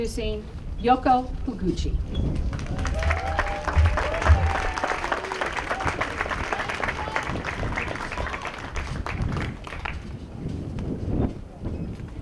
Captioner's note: applause